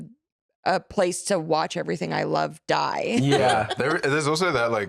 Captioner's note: laughs